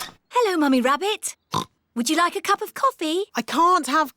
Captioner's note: oinks